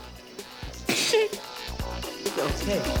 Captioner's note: whimpers